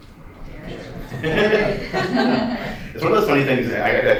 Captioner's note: laughter